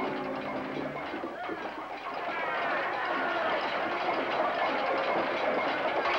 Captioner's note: men Yelling; cups Banging, Men Yelling